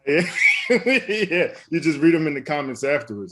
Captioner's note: laughs